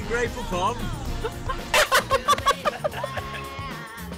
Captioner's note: laughing